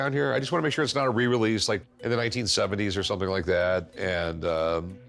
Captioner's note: none